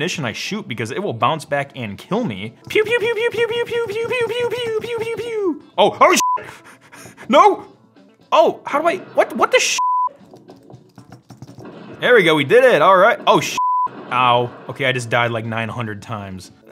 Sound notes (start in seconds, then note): 6.2 beep; 9.7 beep; 11.6 exploding; 13.5 beep